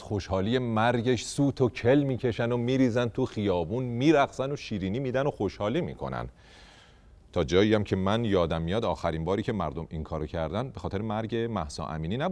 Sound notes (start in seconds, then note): none